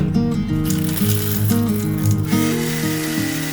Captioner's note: beans rattling; grinder whirring